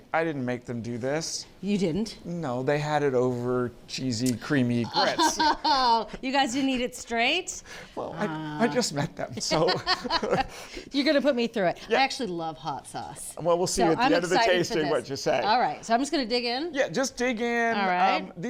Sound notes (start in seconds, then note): 4.9 laughs; 8.0 laughs